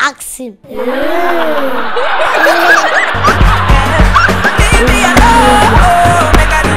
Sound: ohhhs, laughter

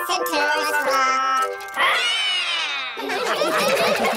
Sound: all roar; all laughing

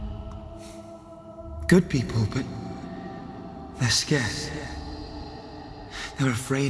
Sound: sigh

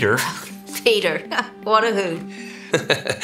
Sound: chuckling

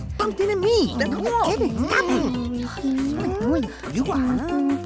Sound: muttering

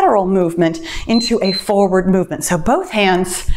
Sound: timer beeps

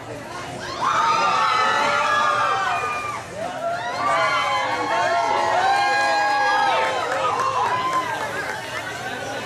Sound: guests cheering and applauding

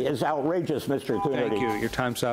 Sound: timer rings

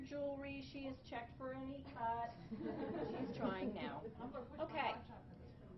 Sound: laughing

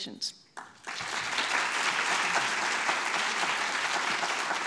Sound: audience clapping

